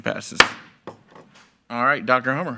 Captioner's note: gavel thudding